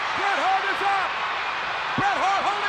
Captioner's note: crowd cheering